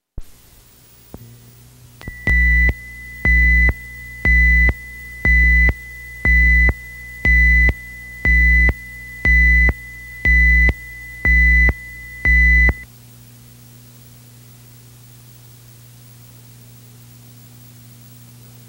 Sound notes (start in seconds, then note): 0.3 static hissing; 2.1 alarm beeping